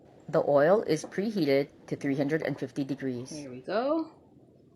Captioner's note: robot voice